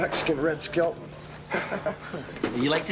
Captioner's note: Evan chuckling